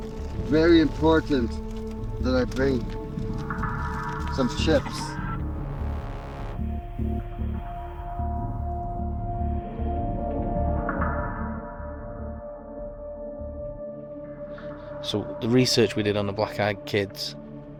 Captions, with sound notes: Very important that I bring some chips. [trilling sound] [suspenseful music playing] - So the research we did on the black eyed kids.